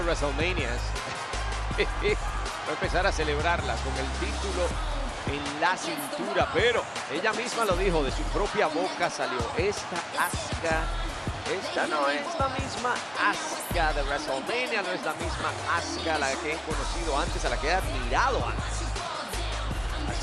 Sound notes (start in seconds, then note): 1.4 laugh